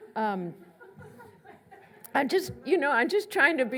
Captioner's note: laughs